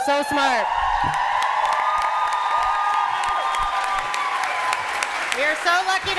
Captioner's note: cheering and applause